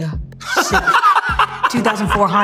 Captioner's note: laughter